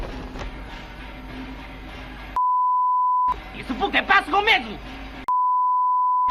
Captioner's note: actors speaking in foreign language